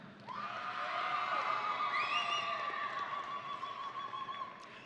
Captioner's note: audience cheering